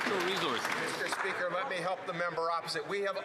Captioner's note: some Applause